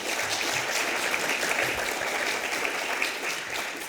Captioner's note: audience clapping